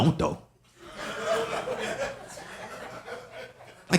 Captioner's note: audience laughing